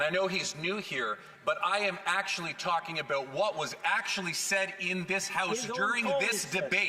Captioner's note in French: voix de l'interprète